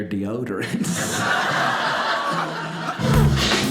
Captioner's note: audience laughing; upbeat hip-hop music